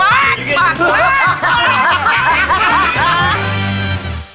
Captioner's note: group laughing